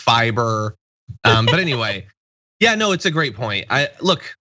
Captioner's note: laugh